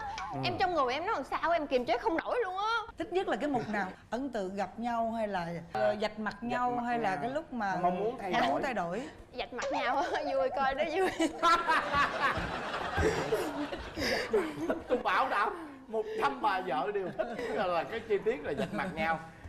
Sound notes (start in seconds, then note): 10.1 haha